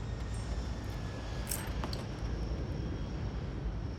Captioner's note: necklace clatters